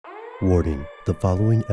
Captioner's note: sirens whirring; voiceover